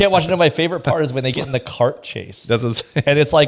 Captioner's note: laughs